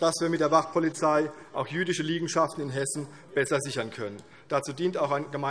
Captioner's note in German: none